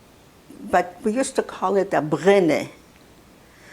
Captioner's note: non-english